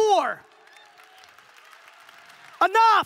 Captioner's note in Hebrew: הקהל מוחא כפיים